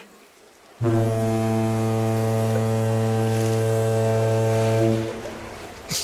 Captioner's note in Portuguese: buzina de navio